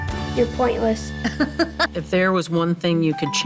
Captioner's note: laughing